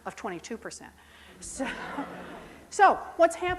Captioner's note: laughing